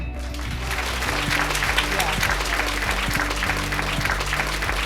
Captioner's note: applause